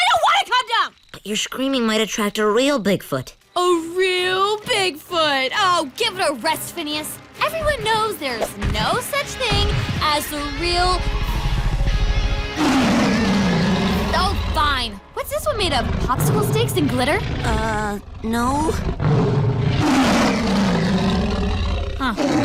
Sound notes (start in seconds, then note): 12.9 roaring; 19.1 snarling